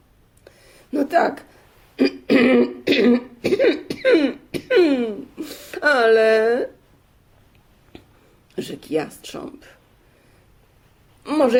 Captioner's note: coughing